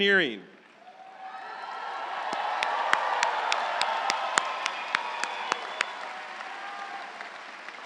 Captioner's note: audience applauding; audience cheering